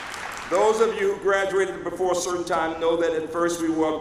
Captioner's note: applause